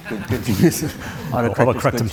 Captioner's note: audience Laughing